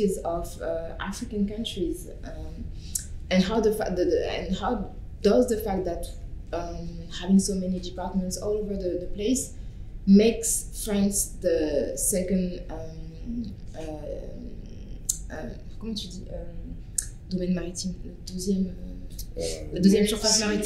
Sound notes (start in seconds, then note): 15.5 speaking french